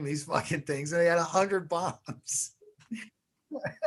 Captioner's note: laughs